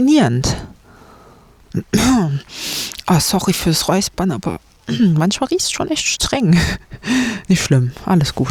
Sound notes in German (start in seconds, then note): 2.0 schnauben; 6.4 gelächter